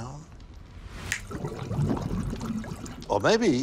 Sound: fish tank bubbling

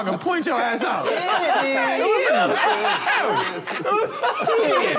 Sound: laughter

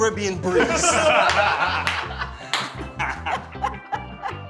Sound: group laughing

